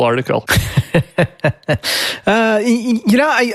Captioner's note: laughs